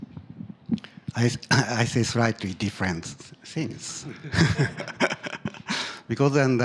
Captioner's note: laughs